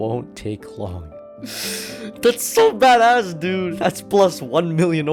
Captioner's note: inhales